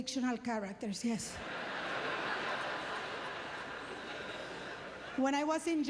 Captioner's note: audience laughter